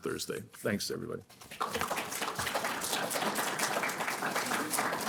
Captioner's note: applause